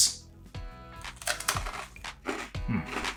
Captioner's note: food crunching